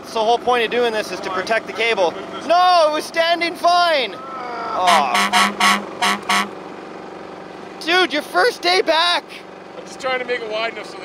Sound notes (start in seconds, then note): 4.8 honk